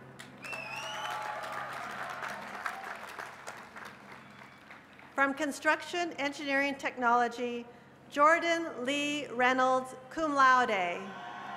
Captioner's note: cheers and applause